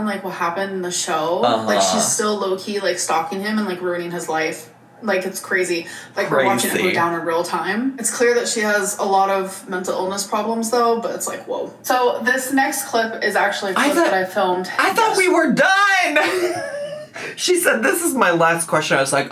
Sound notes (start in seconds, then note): 16.1 laughs